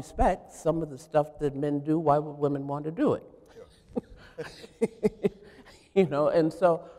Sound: chuckles

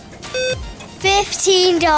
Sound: beep

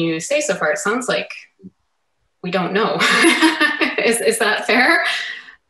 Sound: giggles

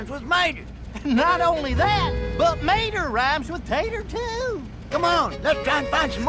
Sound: chuckles

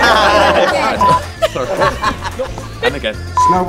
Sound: laughing

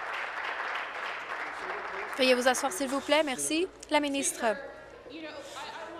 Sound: applause

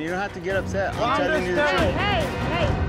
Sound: yelling

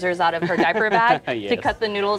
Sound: laughs

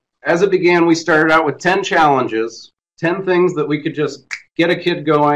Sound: snap fingers

